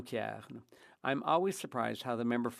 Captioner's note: speaking French